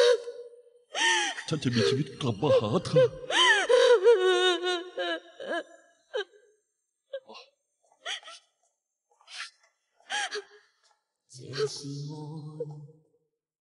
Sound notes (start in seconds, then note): 2.6 sobbing